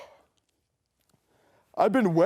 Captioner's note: Renfield breathes